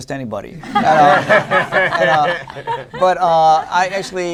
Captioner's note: laughter